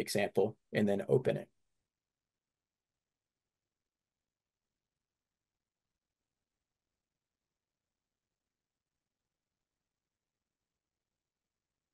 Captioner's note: silence